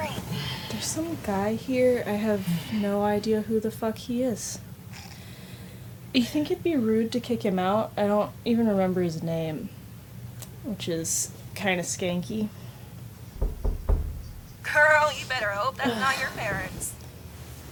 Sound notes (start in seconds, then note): 13.4 door knocking